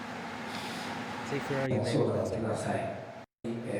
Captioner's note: speaking foreign language